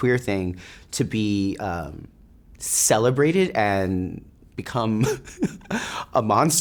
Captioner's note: laughs